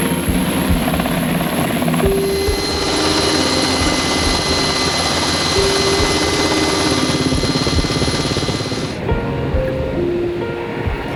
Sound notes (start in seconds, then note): 2.2 helicopter rotor thunders; 8.5 sombre music continues